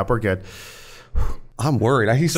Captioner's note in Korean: 쓰읍 후